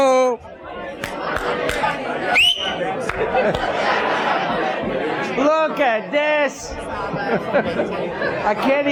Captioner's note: audience discussing; whistles